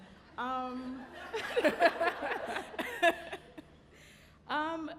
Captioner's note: panelist laughing